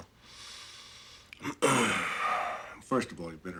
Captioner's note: exhales